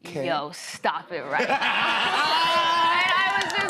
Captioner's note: laughter